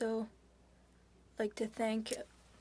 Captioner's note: speaking French